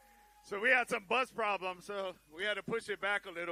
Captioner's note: cheering